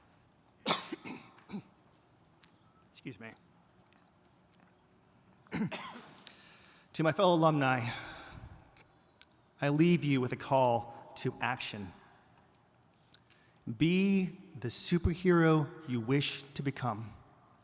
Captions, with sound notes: (coughs) Excuse me. To my fellow alumni, I leave you with a call to action. Be the superhero you wish to become.